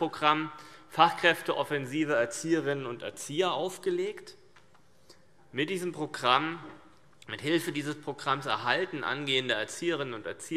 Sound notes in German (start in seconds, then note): none